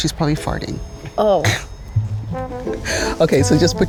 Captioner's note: laughs